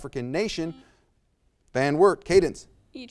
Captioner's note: buzzer buzzes